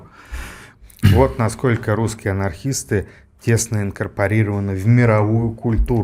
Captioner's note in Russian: откашливается